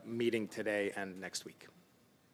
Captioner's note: speaking French